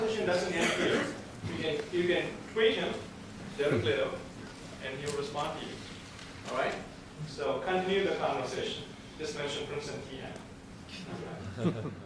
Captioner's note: laughter